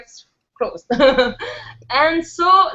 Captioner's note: laughs